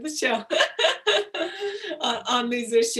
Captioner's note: laughs